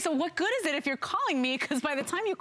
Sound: laughter

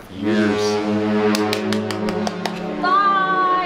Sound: ship's horn sounding

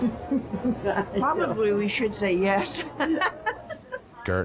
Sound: laughing; laughing

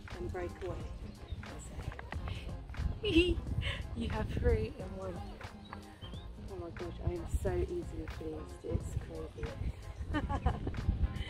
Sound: chuckles

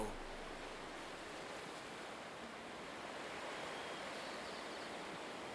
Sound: birds chirping

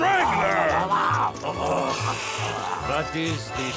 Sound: growling

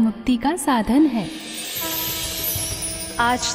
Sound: conch blows

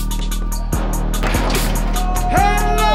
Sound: ball bouncing; ball dunking

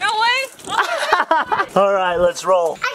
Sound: laughs

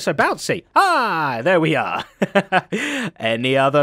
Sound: chuckles

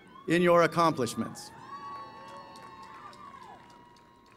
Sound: cheering

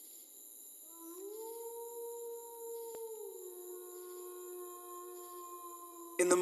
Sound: muted wolf howl

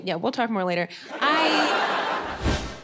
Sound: audience laughing

